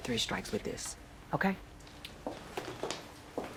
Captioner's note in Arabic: خطوات